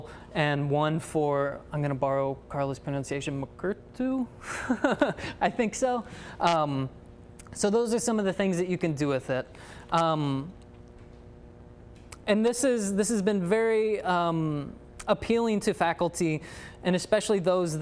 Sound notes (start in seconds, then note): 4.5 laughs